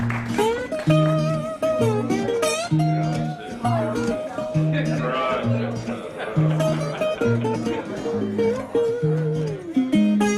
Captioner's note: applause; blues slide guitar; people mingling; blues slide guitar